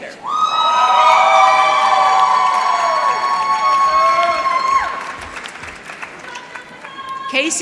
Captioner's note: applause